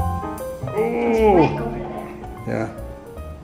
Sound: exclaims

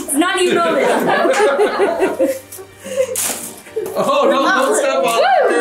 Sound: all laughing

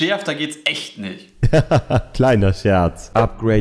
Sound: laughing

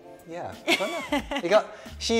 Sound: laughs

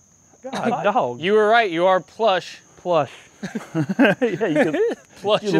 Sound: laughter

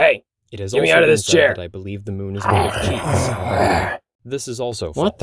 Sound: growling

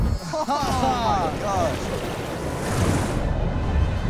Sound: laughs

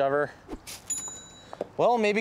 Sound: cash register rings

